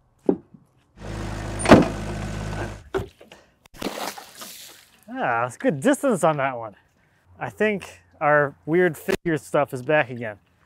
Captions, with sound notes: (machine rumbles) (water splashing) Ah, that's good distance on that one. I think our weird figure stuff is back again.